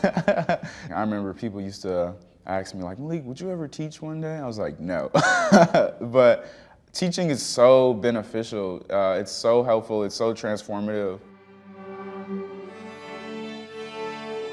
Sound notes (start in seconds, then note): 0.0 laughs; 5.2 laughs